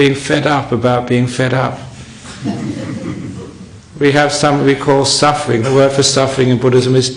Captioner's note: laughter